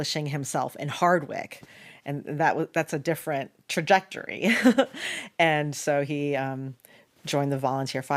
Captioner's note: laughs